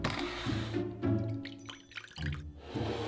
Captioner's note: liquid pouring